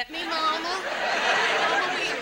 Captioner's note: audience laughs